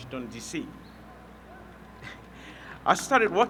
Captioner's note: laughs